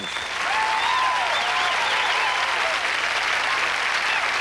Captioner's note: cheers, applause